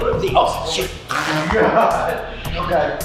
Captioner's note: laughing